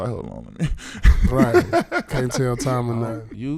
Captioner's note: laughing